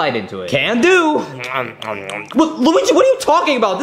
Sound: chewing

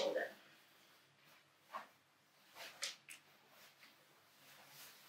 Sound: clothes rustling

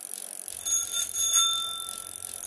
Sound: bicycle bell

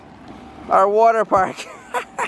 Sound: laughs

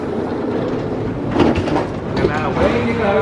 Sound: doors clang

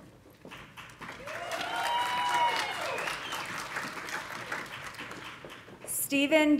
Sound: audience applauding; audience cheering

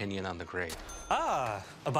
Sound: cha-ching

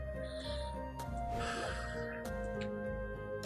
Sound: sighs

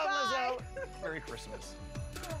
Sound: laughs

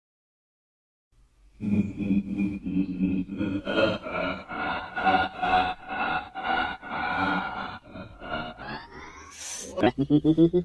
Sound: sound of laughing

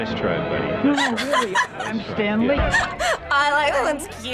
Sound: laughs

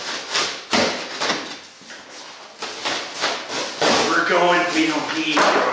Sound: box being cut

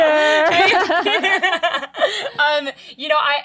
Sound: laughing

